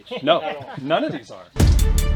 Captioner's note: chuckling